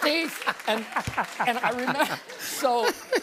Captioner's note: laughter